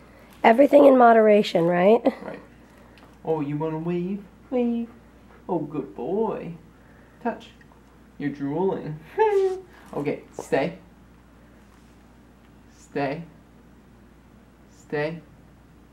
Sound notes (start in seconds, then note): 9.1 laughs